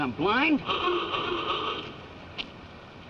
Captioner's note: horn honks